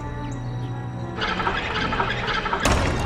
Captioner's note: metallic whirring